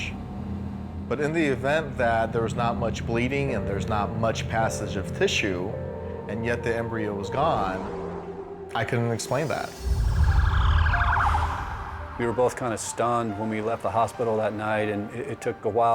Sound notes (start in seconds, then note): 9.6 sirens whining